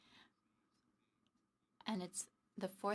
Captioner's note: speaking French